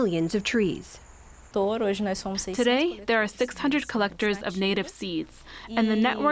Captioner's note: through translator